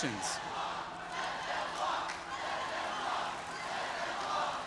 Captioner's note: audience chanting